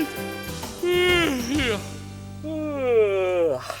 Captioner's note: Groove yawns